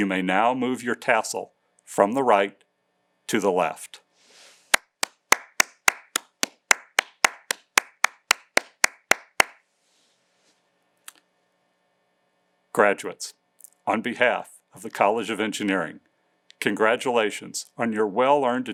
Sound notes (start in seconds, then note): 6.9 applause